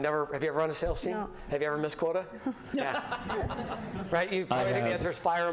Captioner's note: laughter